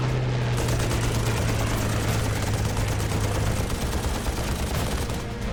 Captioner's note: gunfire